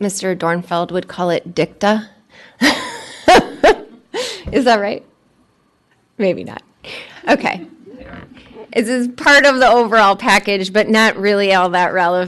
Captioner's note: laughter